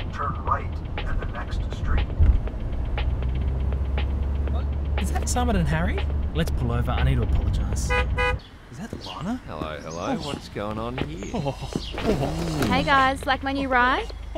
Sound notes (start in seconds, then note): 11.5 admiration noises